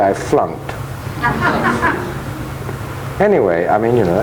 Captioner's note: audience laughing